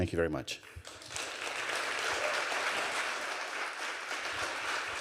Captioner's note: audience applauding